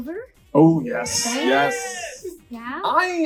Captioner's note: crown cheers